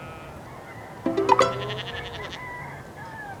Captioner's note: notification